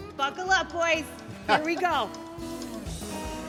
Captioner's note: John laughs; lighthearted music continues